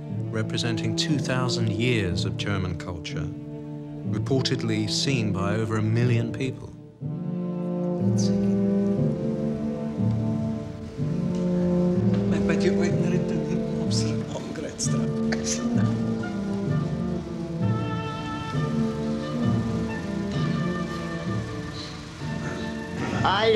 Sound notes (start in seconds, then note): 12.7 speaks foreign language; 17.4 dramatic music